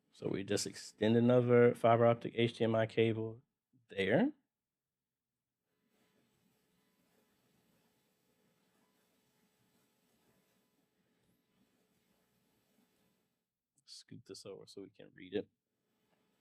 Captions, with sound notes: So we just extend another fiber optic HDMI cable there. [silence] Scoop this over so we can read it.